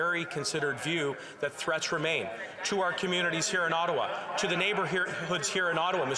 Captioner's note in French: voix de l'interprète